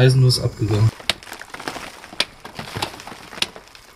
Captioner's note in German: Pickgeräusche, Metall auf Stein